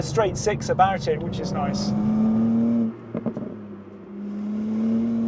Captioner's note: vehicle revs